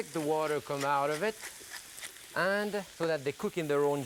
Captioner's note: pepper cracking